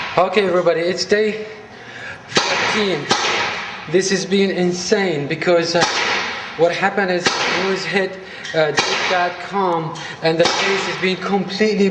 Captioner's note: paintball gun shooting